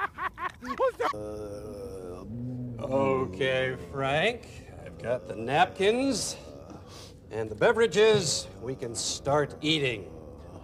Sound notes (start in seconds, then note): 1.0 moaning